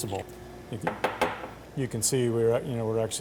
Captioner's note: bowl tapping